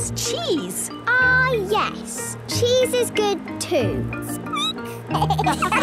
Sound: squeaking; laughter

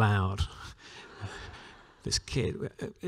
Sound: laughter

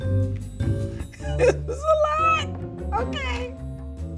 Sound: laughs; upbeat music

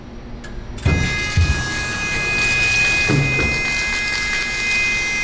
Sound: machine buzzes

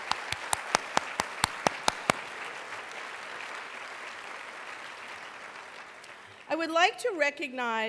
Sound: applause

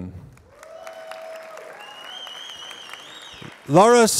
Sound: applause

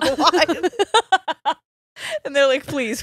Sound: both laughing

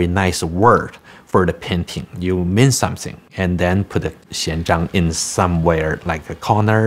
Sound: speaking chinese

